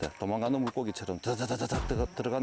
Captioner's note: bzzzzzz